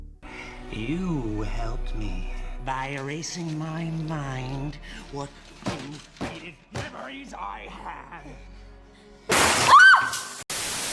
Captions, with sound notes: “You “helped” me? By erasing my mind? What few faded memories I had?! [scream]